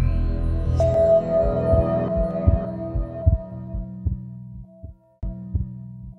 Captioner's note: dramatic music; heartbeat thudding